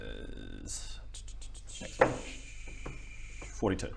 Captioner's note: searching noises